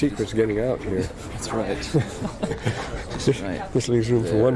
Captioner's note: laughter